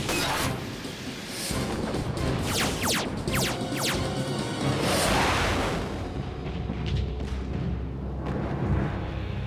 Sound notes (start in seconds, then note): 2.0 explosions and weapons fire